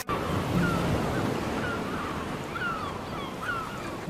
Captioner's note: gulls squawking